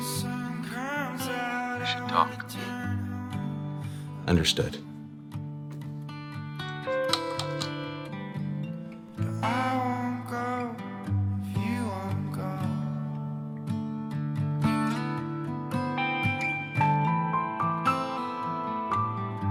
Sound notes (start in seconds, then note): 6.7 keyboard clacking; 14.9 soft music continues